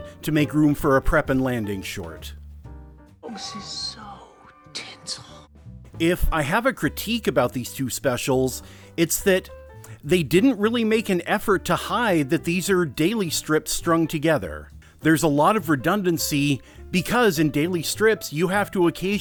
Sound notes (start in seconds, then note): 3.2 whispering